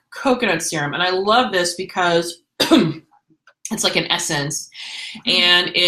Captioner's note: coughs